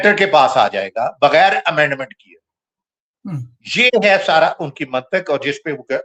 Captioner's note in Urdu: گلا صاف کرتا ہے